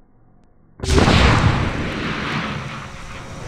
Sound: explosion

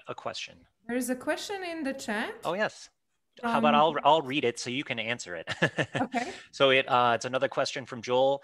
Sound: laughs

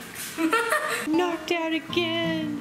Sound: laughter

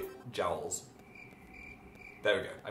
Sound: cricket noises

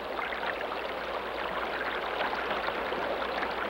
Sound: water gurgling

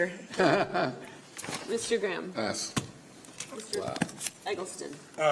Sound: laughter

